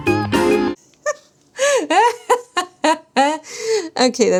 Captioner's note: silly music; laughs